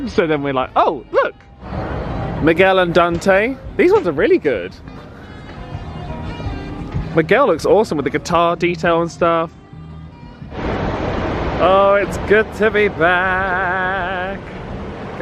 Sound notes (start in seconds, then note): 5.4 instrumental music; 10.5 train goes